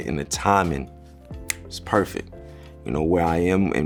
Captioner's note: snaps fingers